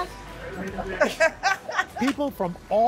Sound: laughter

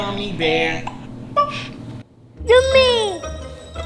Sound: pop sound

